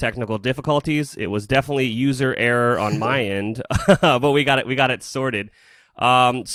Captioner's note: laughs